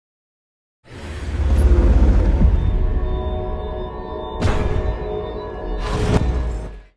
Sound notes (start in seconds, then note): 0.9 big machinery sounds